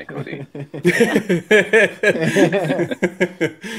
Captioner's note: laughing